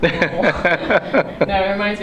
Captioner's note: laughs